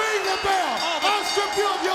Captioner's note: bell ringing